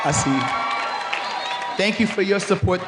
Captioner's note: cheering